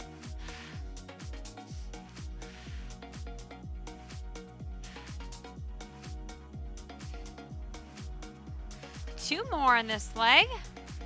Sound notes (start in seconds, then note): 0.0 upbeat lively music; 2.4 exhaling deeply